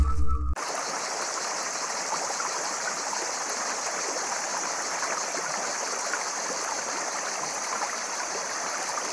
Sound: water, crickets

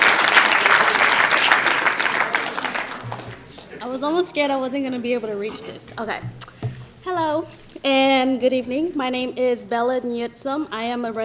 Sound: applause

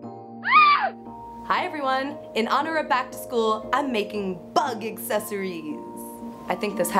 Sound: scream

